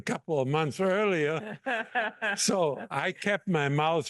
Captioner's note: laugh